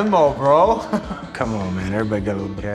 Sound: laughs

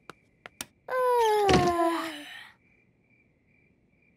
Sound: both yawning; light clicks

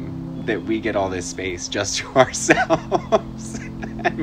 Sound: laughs

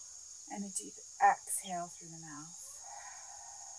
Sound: exhales

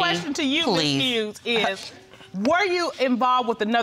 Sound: scoffs

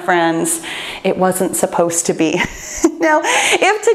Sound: chuckles

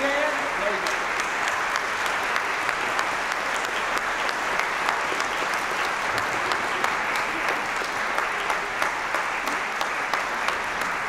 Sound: applause

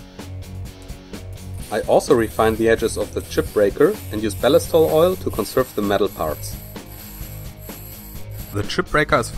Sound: grinding

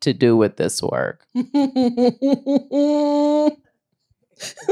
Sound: laughs

